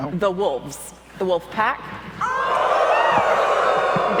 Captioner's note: audience howls